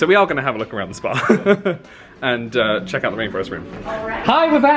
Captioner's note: laughs